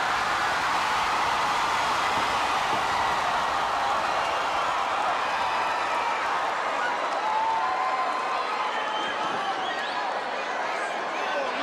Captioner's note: crowd cheering